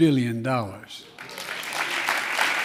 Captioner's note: applause